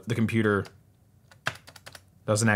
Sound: keyboard clicking

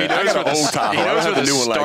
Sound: indistinct chatter

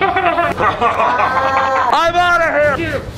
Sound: hackers laughing

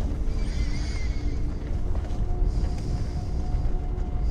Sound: wind whistling

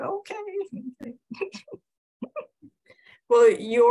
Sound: chuckles

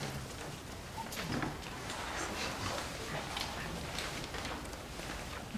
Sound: audience members shuffling

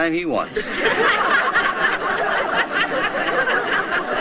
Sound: crowd laughs

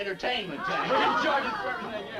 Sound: group laughs

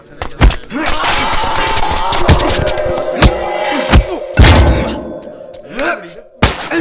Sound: screaming

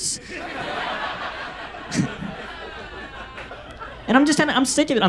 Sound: audience laughs

